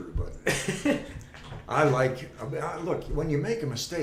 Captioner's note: laughing